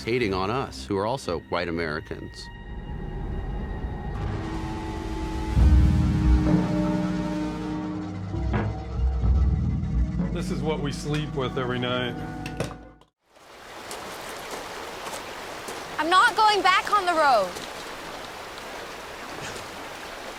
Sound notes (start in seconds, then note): 3.2 dissonant music; 3.2 wind howling; 13.4 water burbling